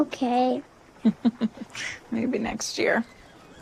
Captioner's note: chuckles